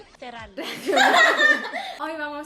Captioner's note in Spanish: risas